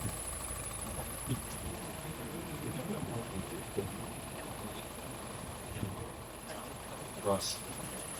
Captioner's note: engine revving